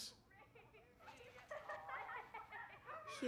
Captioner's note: laughter